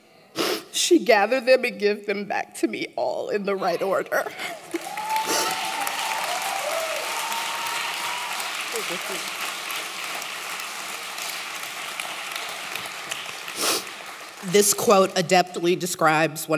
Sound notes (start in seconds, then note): 7.4 applause